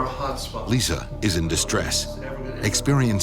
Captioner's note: voiceover